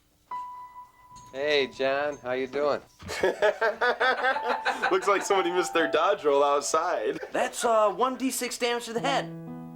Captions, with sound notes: - Hey, John. How you doin'? (group laughs) - Looks like somebody missed their dodge roll outside. - That's one D6 damage to the head.